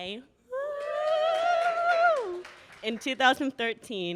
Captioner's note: audience cheers